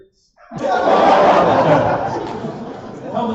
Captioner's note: laughter